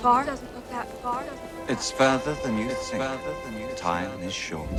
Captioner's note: echoing; echoing